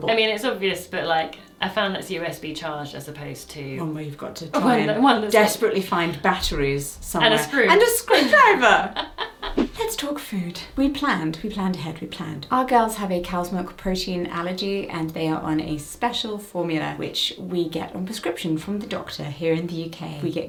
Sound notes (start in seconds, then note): 7.2 laughing; 9.5 screen whooshing